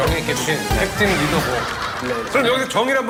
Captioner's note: automatic laughing